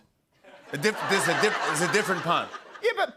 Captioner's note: laughter